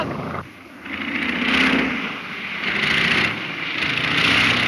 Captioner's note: airplane engine roaring